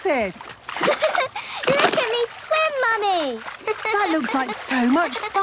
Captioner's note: giggles